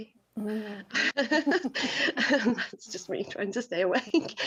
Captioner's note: group chuckling